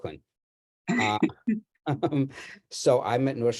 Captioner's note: laughs